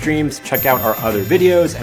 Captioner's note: bell dinging